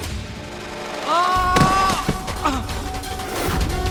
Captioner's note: screams